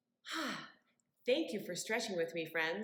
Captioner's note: sighs contentedly